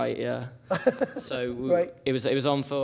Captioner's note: laughs